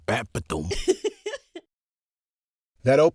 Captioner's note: happy giggle